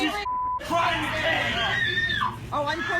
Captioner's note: girl screaming